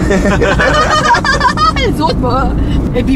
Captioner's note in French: rires